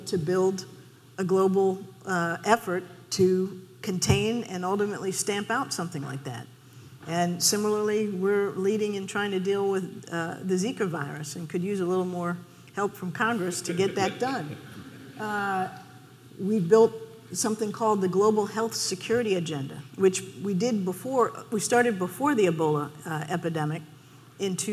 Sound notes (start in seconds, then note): 13.4 laughing